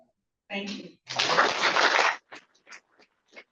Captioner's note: applause